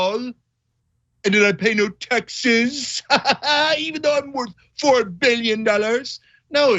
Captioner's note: laugh